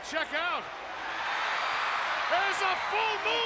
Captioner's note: crowd cheers